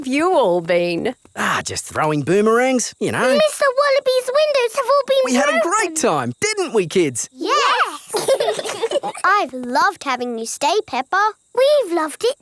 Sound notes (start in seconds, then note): 7.6 laugh